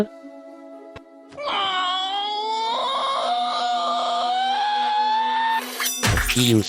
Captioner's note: LemonGrab Screaming